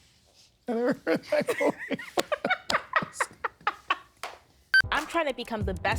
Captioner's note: stunned laughter